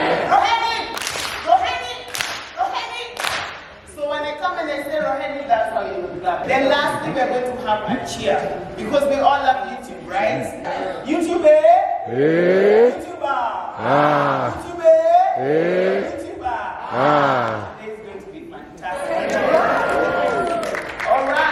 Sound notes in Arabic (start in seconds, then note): 0.9 تصفيق